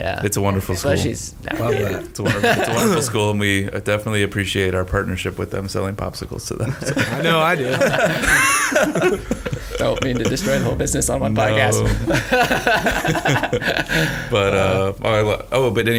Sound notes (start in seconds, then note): 8.5 all laughing loudly; 11.6 laughing